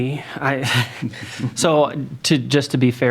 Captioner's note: laughs